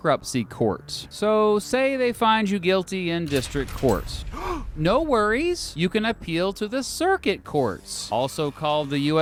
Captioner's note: gasp!